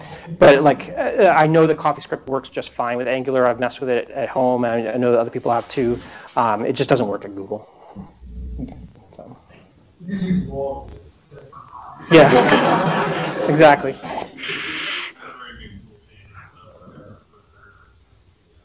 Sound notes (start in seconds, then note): 12.0 laughter